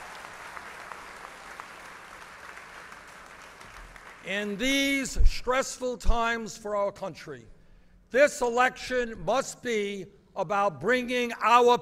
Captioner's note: applause